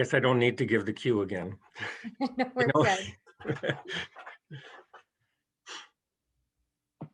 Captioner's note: chuckles